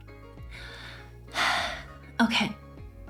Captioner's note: deep breath